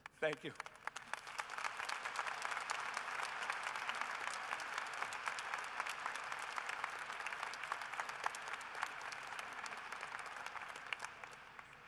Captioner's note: applause